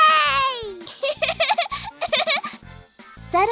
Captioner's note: laughter